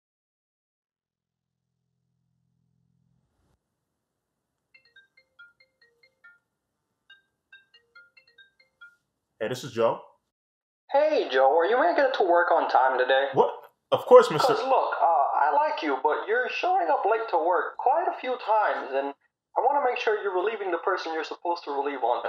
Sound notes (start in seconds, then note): 5.5 phone ringing; 10.2 Boss over phone